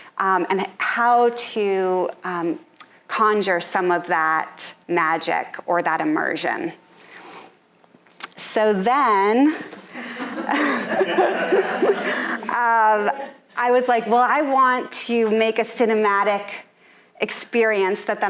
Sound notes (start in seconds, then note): 9.9 audience laughing